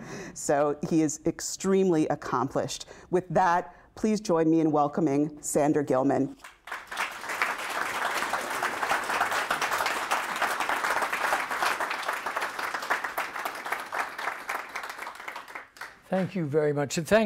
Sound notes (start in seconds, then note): 6.9 audience applauds